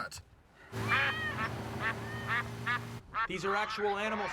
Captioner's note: cat meowing, duck quacking; chuckles; pig squeals, rooster crows